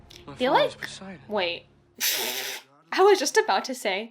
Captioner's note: blows raspberries